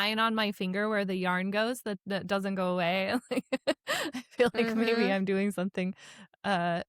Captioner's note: laughs